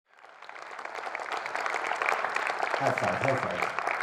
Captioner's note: crowd applauding